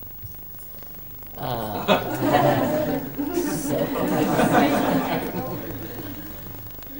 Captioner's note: laughter